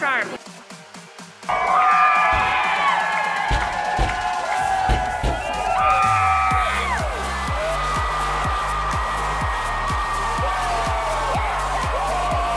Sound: cheering

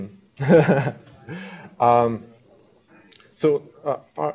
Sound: chuckles

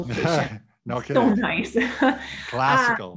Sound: laughs

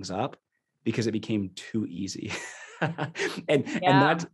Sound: laughing

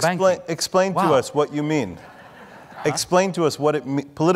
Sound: audience laughing

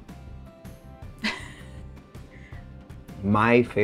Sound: chuckles

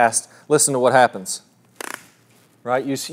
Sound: device snaps

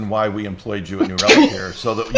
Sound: laughs

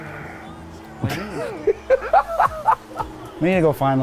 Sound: laughing

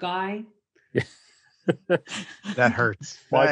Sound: all laughing

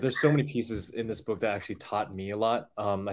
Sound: none

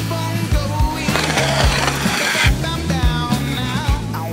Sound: scraping; scratching

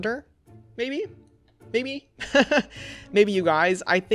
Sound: laughs

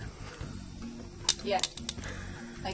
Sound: tongs snap

